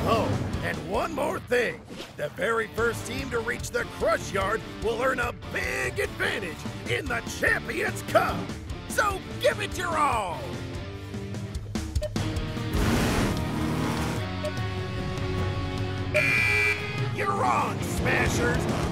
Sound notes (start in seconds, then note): 12.7 revving engines; 15.8 starting horn blares